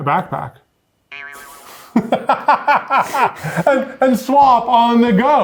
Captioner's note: both laughing